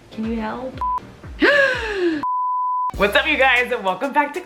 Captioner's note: gasps